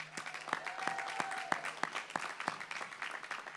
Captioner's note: applause